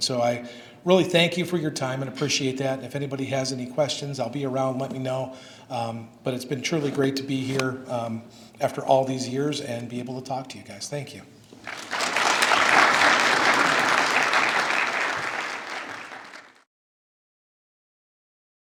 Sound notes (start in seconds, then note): 11.6 applause